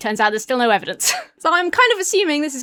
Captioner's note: wheezes